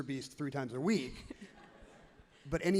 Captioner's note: crowd and laughs happily